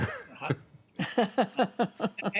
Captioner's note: laughter